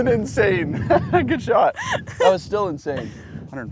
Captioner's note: laughs